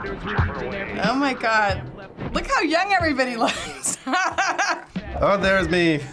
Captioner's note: laughs